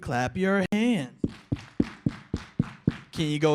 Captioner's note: clapping